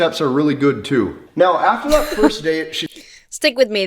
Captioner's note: laughs